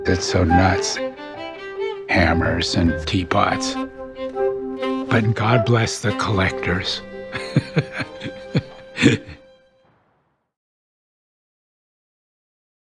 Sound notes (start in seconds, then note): 8.7 laughs